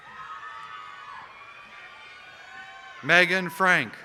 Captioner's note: applause